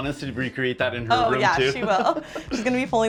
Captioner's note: laughs